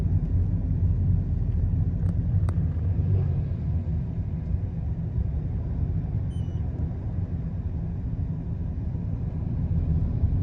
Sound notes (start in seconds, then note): 6.3 meter beeps